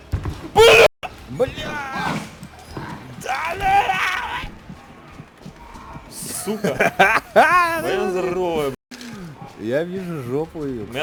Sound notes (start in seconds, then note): 3.2 scream; 6.4 laughter